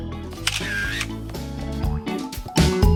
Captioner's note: camera shuttering